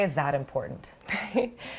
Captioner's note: laughter